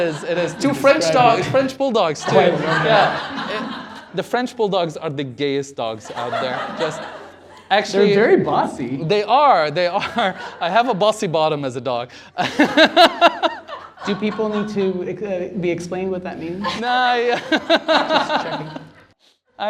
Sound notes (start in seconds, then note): 12.4 laughter